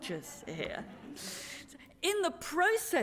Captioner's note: laughter